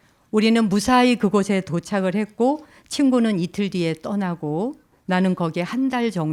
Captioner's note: speaking in Korean